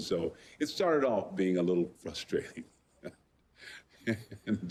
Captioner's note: laughing